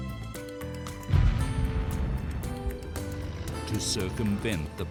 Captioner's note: blasting